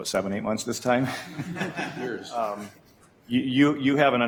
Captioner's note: group chuckles